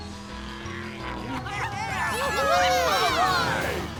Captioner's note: laughing and cheering